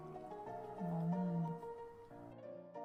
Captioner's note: omnomnom